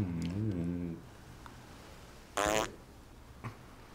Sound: fart

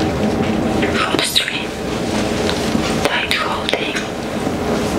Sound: whispered voiceover

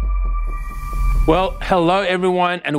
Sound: air whooshes

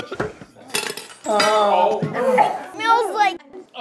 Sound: commotion

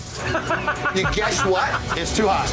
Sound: laughing

